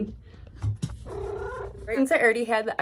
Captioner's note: meow